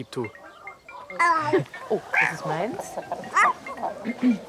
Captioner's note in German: phone ringing